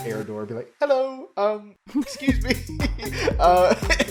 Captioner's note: laughs